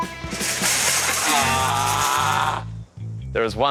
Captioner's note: buzzer sounds